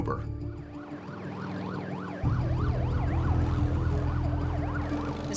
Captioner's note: siren blaring